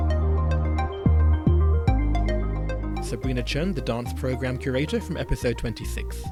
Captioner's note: voiceover